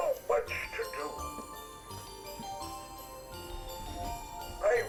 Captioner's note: jingles